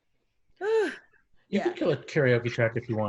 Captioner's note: softly sighs